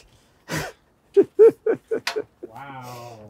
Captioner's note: laughing